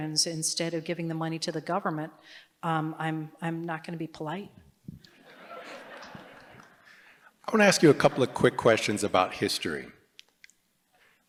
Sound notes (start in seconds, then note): 5.1 laughter